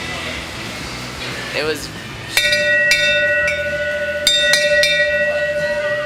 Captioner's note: bell clangs